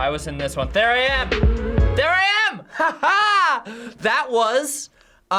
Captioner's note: laughs